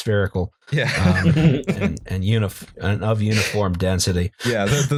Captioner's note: laughter